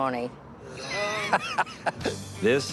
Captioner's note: laughs